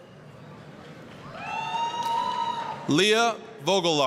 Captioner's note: applause, cheering